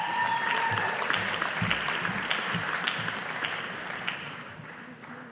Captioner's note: audience applauding